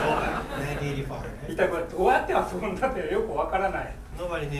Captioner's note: speaking in foreign language